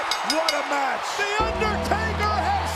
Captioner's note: bell ringing